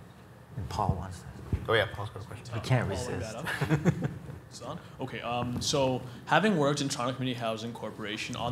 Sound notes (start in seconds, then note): 3.3 chuckles; 5.0 voiceover